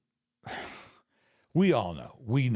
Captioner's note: Michael chuckles softly